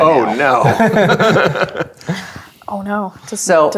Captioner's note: players laughing